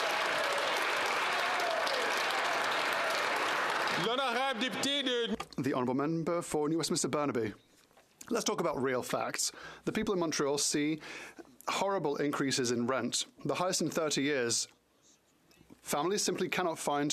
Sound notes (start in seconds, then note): 4.2 some Applause